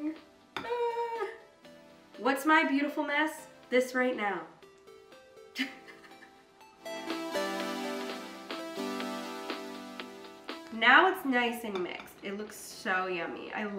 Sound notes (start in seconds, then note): 5.5 chuckles; 7.4 upbeat music